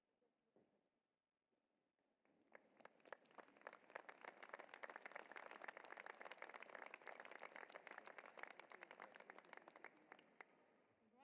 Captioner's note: applause